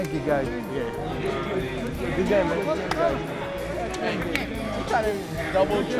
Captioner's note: players chattering